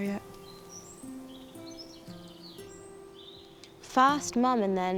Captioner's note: birds chirping; gentle music